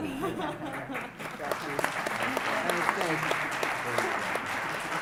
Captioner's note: audience applause